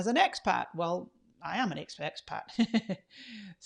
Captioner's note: laughs